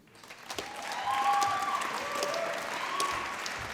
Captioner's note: applause